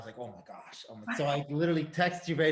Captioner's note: Sarah chuckles